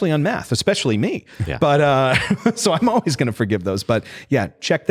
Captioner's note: laughs